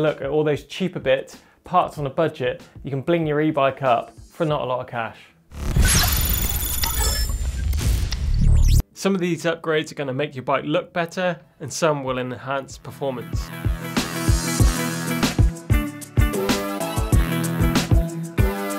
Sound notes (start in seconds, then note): 5.5 electronic noise; 12.7 upbeat music